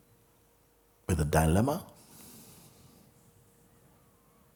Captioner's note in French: silence